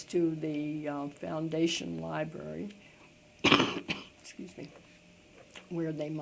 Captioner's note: coughs